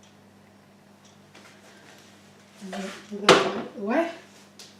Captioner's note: juicer also thumps